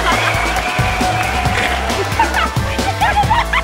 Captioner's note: applause; pop music